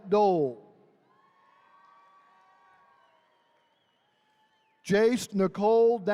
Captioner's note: attendees cheering